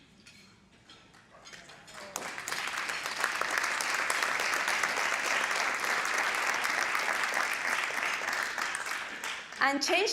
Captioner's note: applause